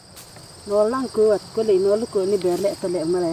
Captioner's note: non-english speech